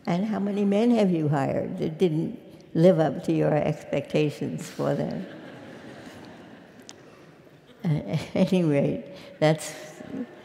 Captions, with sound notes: And how many men have you hired that didn't live up to your expectations for them? >> [LAUGH] >> Anyway that's